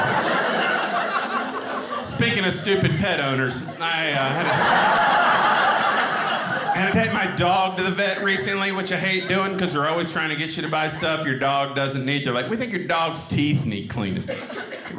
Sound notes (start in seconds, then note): 3.8 audience laughing